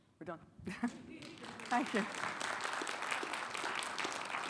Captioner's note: chuckles; audience applauding